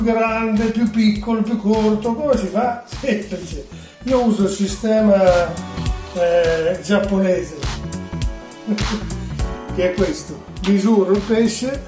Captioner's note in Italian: risata